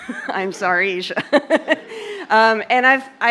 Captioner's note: laughs